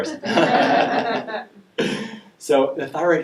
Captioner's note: laughing